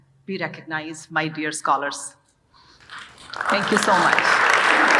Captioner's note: audience applauding